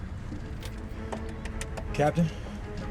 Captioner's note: taps dashboard